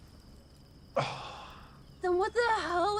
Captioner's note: sighs